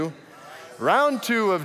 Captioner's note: audience mumbles